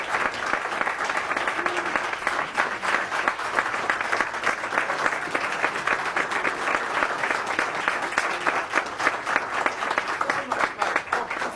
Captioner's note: applause